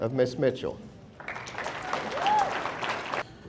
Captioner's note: audience applauding; audience cheering